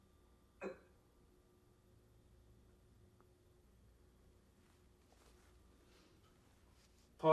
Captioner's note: pauses 6 seconds